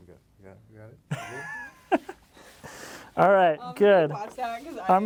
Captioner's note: laughs